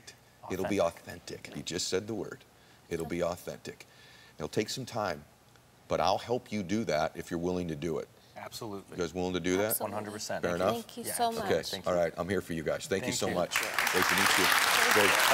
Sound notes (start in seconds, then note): 13.4 audience applauding